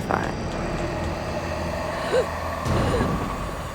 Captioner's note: gasps